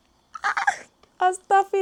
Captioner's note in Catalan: crit mut